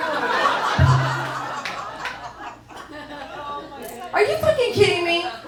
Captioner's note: crowd laughing